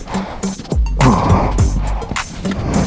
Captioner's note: grunts